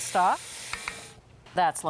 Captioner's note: spoon tapping